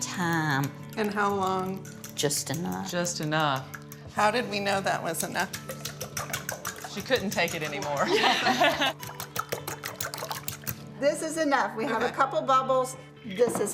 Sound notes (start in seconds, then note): 8.0 laughs; 8.4 fork rapidly clinking